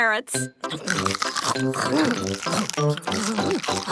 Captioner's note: crunch